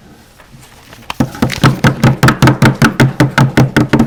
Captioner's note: banging on table